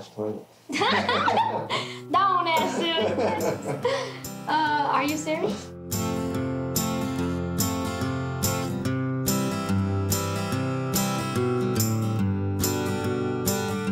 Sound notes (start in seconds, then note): 0.8 laughing; 5.9 country guitar playing